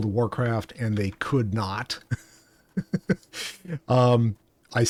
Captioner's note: chuckles